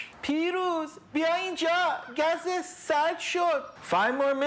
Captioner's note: speaking in Farsi